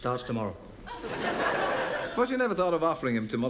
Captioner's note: audience laughs